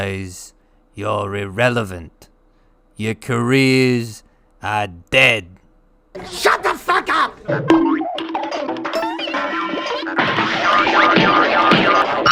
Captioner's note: cartoon violence sounds